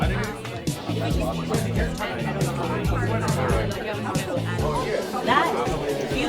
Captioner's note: crowd talking